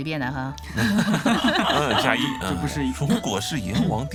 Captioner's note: laughing